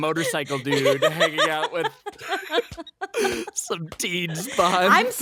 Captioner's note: all laughing